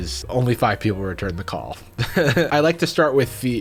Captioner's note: laughing